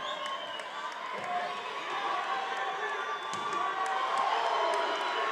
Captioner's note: attendees cheering